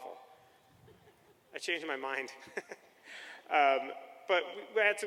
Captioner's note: chuckles